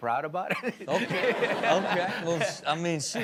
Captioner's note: audience laughs